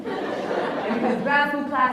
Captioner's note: laughs